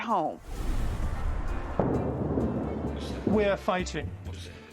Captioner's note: explosion booming